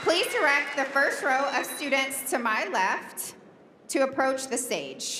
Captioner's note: cheering and applause